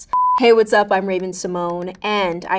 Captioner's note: electronic beeping